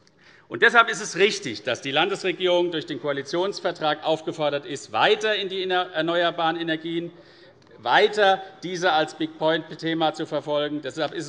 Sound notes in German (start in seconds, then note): none